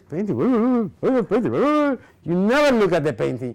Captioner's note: grumbling